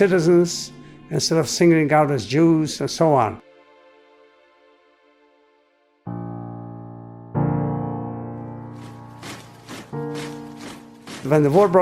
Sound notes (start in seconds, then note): 5.4 footsteps clomping; 6.0 somber piano music